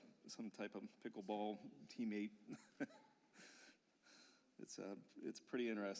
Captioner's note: laughter